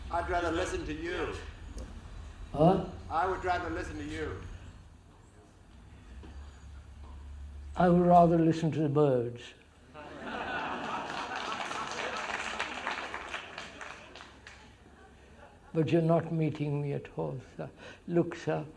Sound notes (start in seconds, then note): 9.9 laughter; 10.7 clapping